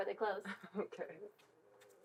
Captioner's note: chuckles